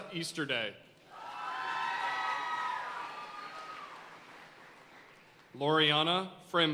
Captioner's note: audience cheering and applauding